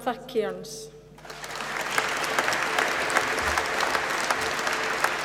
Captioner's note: applause